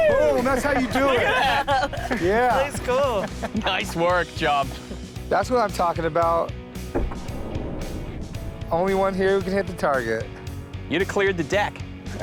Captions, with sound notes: - Whoa, that's how you do it. - That's cool. - Nice work Chum. - That's what I'm talking about. (loud thump) Only one here who can hit the target. - You'd clear the deck.